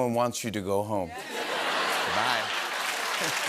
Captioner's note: laughter; cheers and applause